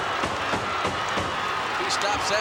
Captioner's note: audience cheering